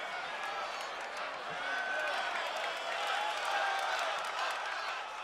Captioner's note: crowd cheering